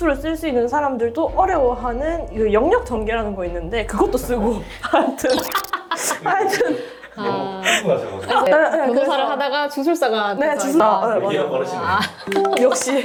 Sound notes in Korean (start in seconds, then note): 5.6 웃음